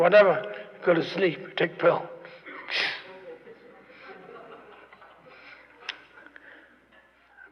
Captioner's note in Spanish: Risas